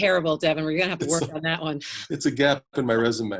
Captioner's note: laughs; both laugh